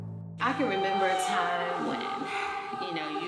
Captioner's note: none